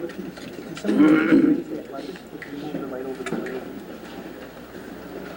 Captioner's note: clearing throat